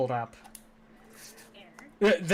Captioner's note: clicking onscreen